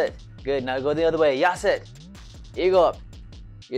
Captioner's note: foreign language